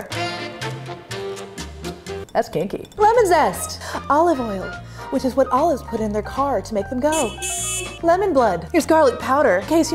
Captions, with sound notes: (sultry jazz) That's kinky. Lemon zest. Olive oil. Which is what olives put in their car to make them go. (car honks) Lemon blood. Here's garlic powder.